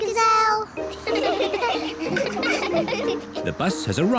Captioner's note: all giggle